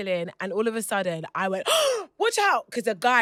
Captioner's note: gasps